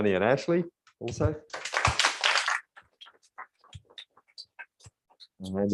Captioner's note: applause